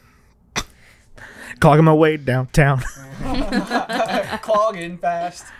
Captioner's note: laughter